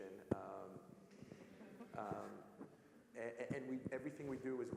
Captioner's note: laugh